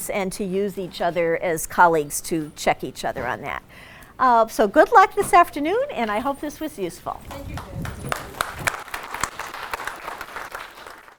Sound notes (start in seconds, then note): 7.2 crowd clapping